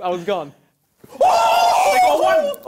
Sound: cheering

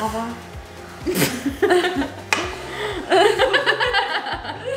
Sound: laughing

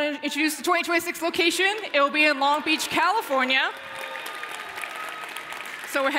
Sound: applause

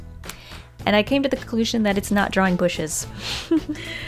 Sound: laughs

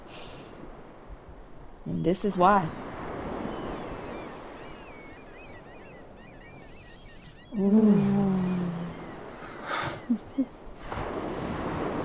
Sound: the sound of the ocean and seagulls

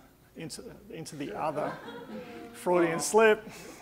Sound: audience laughing

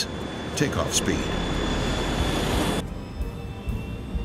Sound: engine humming

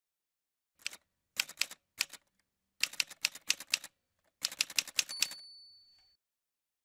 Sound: typewriter Sounds

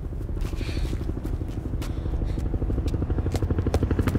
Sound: helicopter approaching

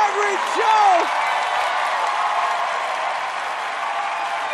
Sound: applause

